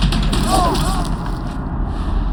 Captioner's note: groans